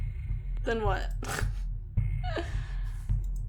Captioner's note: laughs